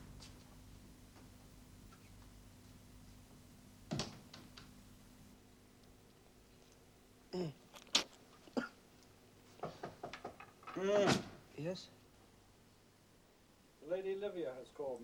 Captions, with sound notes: (KNOCKING) - Yes? - The Lady Livia has called, master.